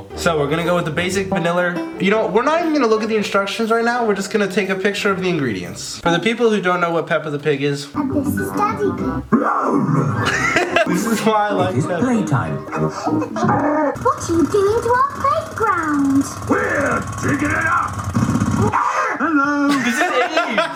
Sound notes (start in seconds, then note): 9.3 roars; 10.0 laughs loudly; 12.6 gargling noise; 18.7 laughs maniacally; 19.2 both laughing loudly